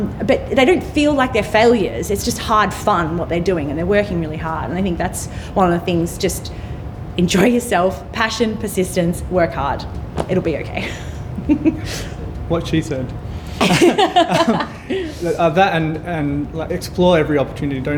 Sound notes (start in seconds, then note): 10.7 laughing; 13.5 all laughing